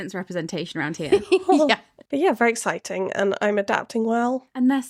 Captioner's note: laughing